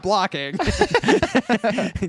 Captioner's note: laughing